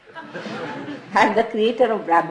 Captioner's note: laughter